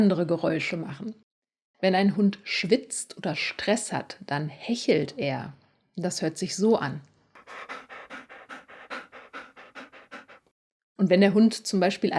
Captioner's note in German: hechelt